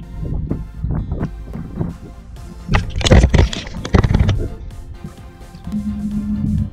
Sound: wind blowing, camera clicking

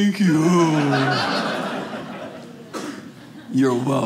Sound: audience laughing

